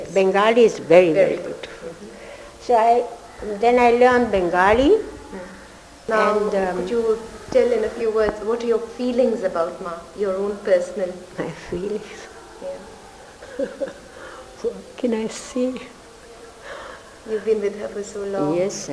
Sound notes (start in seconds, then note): 11.6 laughs